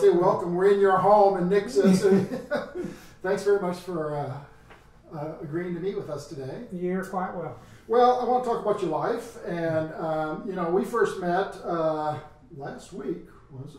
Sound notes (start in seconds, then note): 1.1 laughs